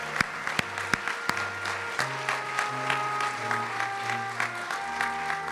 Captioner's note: applause